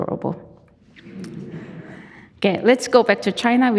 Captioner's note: audience chuckling